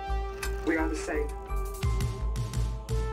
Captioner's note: robot voice